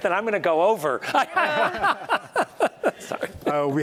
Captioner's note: laughter